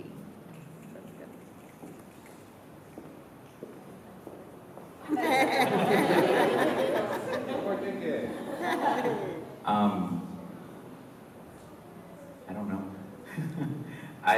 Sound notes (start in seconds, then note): 5.0 laughter